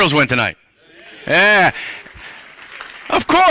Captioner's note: cheering